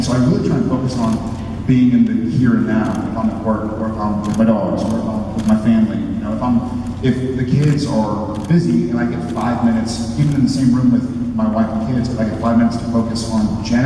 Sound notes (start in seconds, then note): none